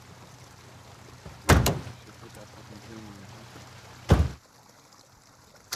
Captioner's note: car cranks and screeches out